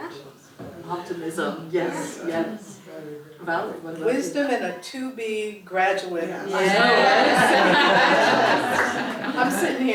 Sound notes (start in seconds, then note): 6.7 laugh